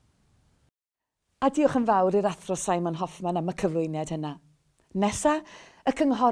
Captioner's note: Welsh